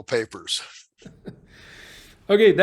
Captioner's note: laughing